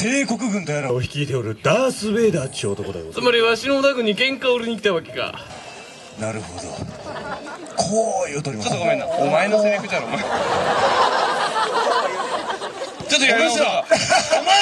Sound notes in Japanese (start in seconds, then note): 12.2 客 笑・笑・笑